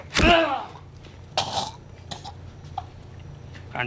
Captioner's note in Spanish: Quejido